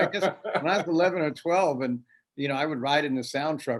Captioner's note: laughs